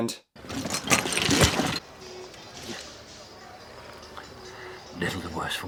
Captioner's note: golf clubs tip over, lightly clatter